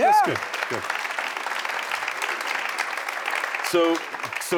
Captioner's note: audience applauding